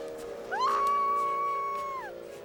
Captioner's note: young woman screams